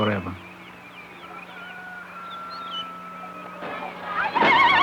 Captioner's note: birds trilling, rooster crowing